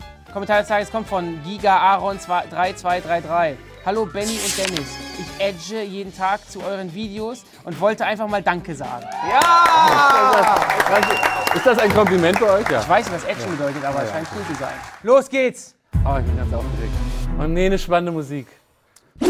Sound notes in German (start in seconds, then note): 9.0 Jubel; 17.1 Spannende Klänge